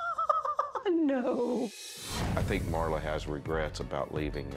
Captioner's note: laughs